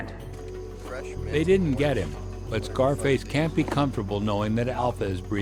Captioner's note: voiceover